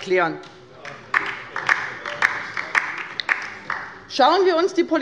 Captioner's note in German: Beifall bei der LINKEN